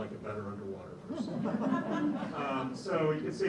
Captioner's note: laughter